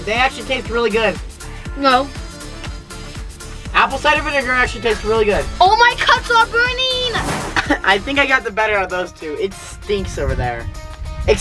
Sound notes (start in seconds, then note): 7.0 air whooshing; 7.4 coughing